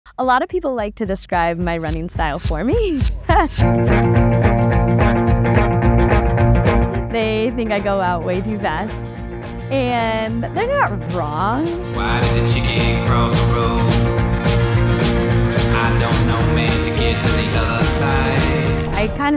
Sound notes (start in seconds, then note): 3.1 chuckles; 3.7 upbeat music